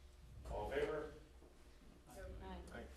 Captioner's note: background comments